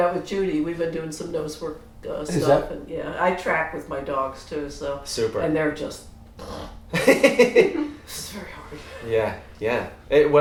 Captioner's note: snores